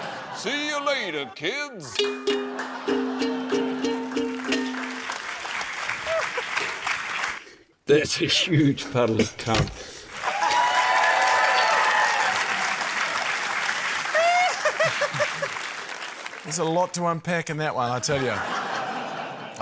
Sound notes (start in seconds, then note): 2.0 strums ukulele; 5.3 applause; 10.1 cheering, applause; 18.1 laughter